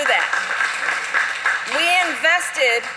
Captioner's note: applause